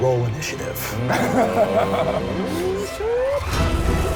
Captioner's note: laughs